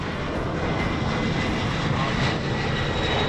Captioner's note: aircraft noise